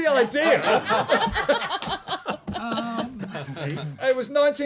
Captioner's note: laughter